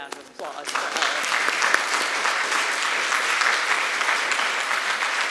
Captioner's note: applause